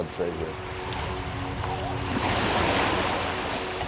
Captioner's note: rolling waves and wind blowing